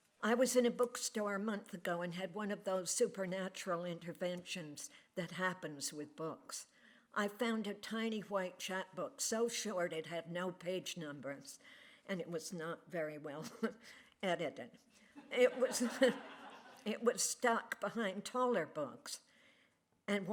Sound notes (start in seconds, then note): 15.1 laughter